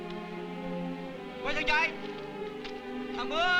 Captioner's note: Malay spoken audio